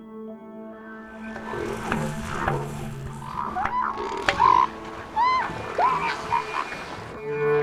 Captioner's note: elephant Seals bellow